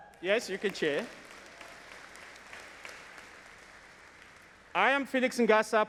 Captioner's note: audience applauding